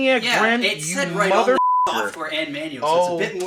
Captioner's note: beeping